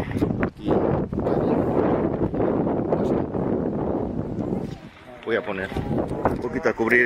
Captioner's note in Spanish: viento